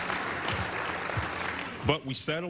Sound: applause

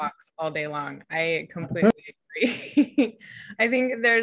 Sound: laughs

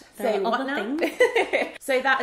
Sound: laughs

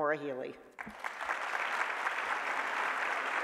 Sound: applause

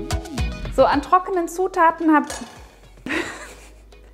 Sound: bowl clinks; laughing

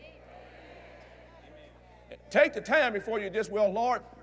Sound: audience Agrees

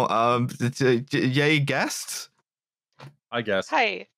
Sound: stammers

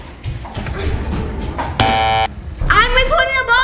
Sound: buzzer buzzing

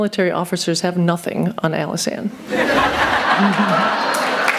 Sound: laughter and Applause

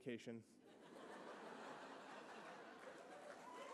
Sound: laughter

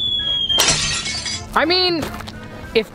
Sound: glass shattering

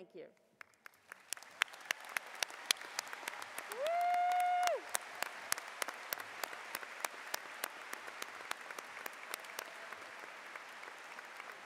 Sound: cheers and Applause

